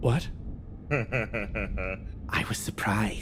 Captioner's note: laugh